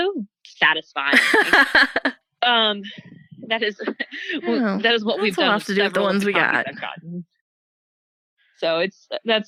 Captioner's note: laughs